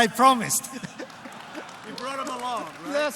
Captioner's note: laughter